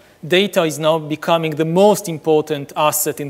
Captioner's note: none